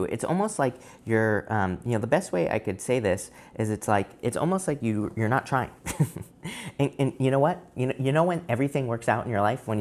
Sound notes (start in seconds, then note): 5.8 laughs